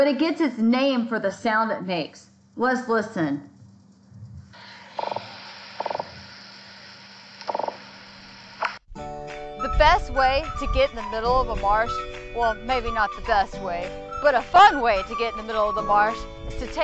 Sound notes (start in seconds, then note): 5.8 fish croaking